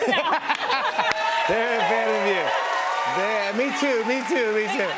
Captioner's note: laughter and applause